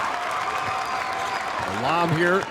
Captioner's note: audience cheers